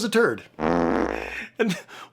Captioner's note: fart sounds